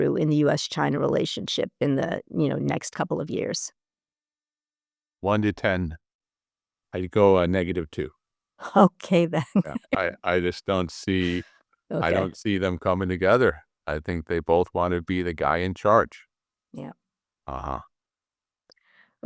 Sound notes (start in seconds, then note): 9.5 laugh